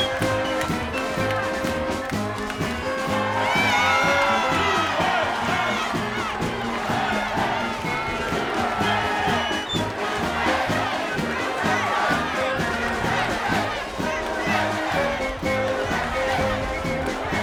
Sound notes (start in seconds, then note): 10.8 applause